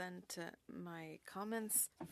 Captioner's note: speaking French